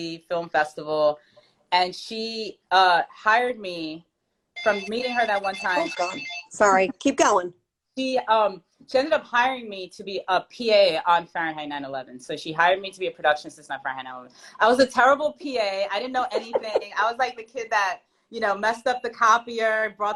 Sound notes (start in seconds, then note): 4.5 phone ringing